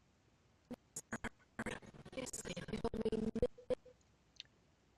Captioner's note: audio skipping